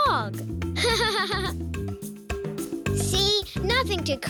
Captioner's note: laughing